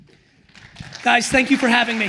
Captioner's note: attendees applauds